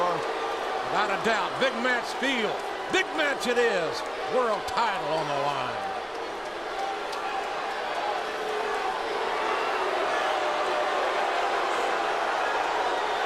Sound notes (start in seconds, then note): 7.1 audience continues jeering